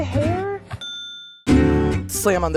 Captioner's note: bell dings